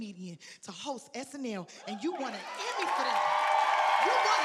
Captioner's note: audience cheering